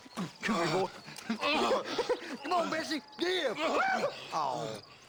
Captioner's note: laughs